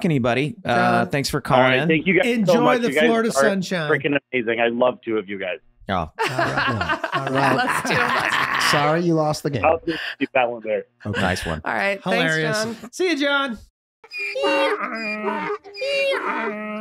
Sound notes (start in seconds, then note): 4.5 speaking faintly; 6.2 laughing; 10.0 speaking faintly; 14.0 donkey braying